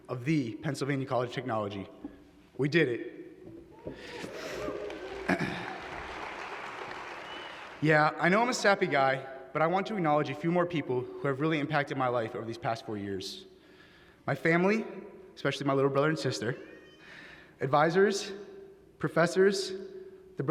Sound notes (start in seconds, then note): 4.1 applause